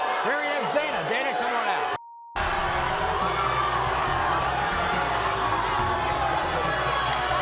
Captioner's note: audience boos